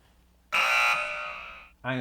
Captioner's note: buzzer